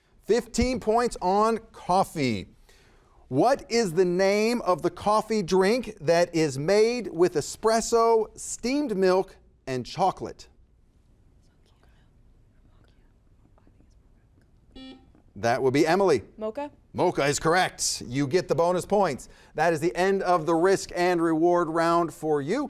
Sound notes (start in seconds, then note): 14.7 buzzer buzzes